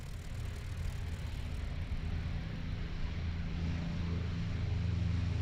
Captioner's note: airplane engines running